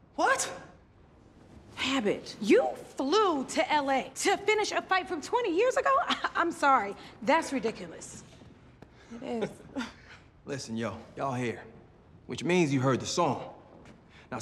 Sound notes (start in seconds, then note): 6.1 scoffs; 9.2 chuckles